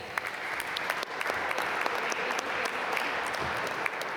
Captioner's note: applause